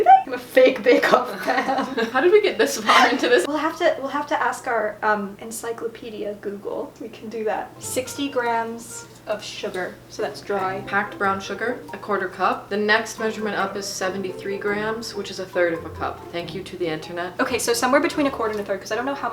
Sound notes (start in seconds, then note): 2.7 laughs